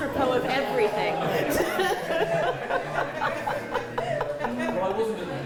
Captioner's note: laughter